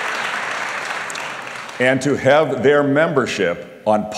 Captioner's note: applause